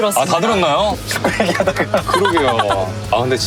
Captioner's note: haha